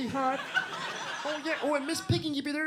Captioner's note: audience laughs